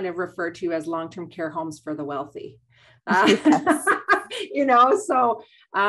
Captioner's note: laughs